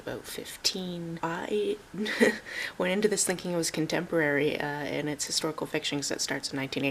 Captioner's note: chuckles